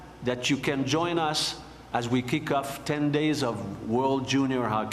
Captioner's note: speaking FRENCH